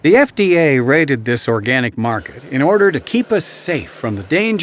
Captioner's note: voiceover